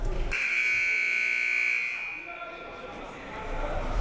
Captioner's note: buzzer